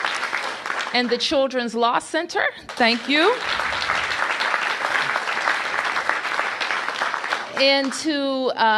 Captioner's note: applause